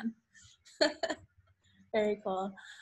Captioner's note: laughs